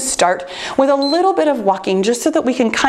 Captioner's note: timer beeps